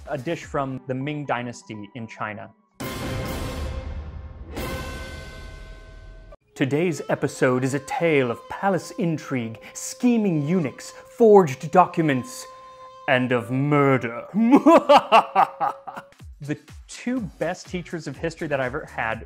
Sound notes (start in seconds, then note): 14.3 sinister laughter